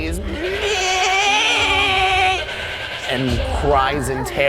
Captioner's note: unnatural screeching